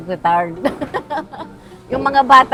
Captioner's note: laughs